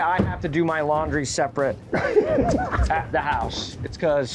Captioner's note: anglers laughing